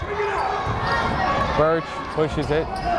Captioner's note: yelling